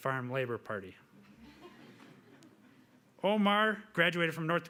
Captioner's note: audience laughing